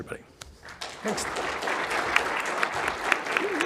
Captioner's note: audience applauding